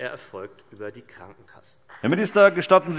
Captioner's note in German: Beifall BÜNDNIS 90/DIE GRÜNEN